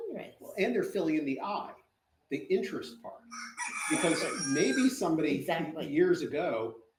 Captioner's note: rooster crows nearby